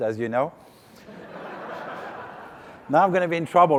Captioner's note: laughing